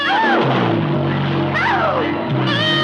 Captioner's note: animals whines